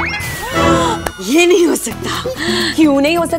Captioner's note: Gasps